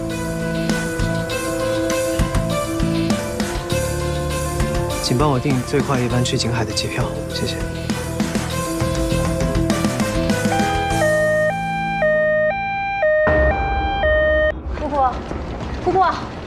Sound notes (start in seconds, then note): 12.9 ambulance